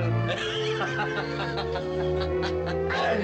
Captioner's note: laughs